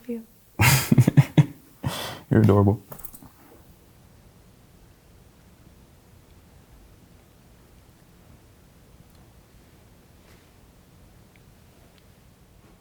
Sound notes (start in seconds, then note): 0.6 laughing; 4.9 silence